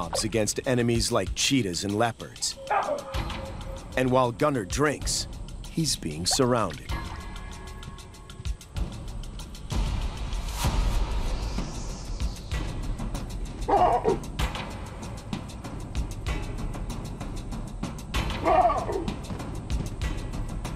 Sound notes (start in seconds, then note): 13.6 baboons barking